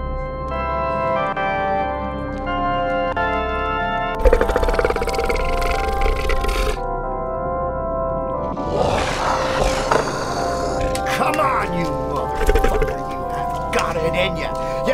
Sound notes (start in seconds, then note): 0.0 church orchestra music; 8.6 snarling